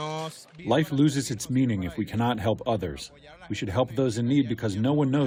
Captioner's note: through translator